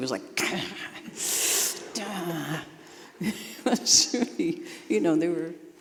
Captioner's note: groaning